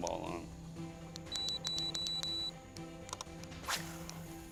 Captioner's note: beeping